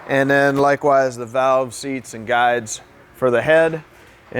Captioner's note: none